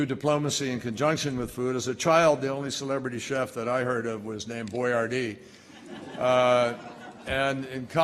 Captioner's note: laughter